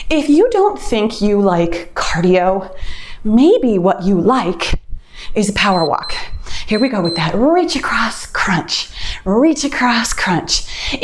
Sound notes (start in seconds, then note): 5.6 timer beeps